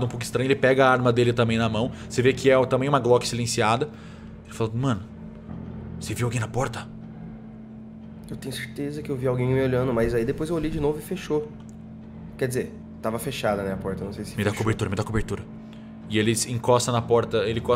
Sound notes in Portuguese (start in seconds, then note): 7.3 sussurro